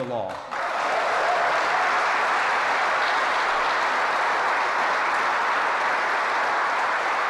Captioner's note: applause